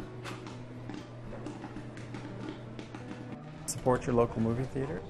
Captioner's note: popcorn popping